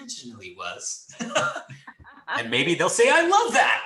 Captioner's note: laughs